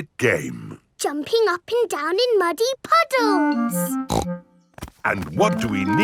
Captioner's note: snorts